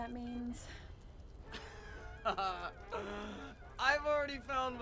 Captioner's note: Rudy laughs